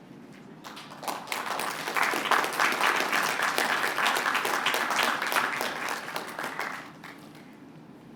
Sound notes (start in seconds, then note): 2.9 applause